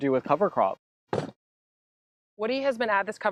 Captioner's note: thump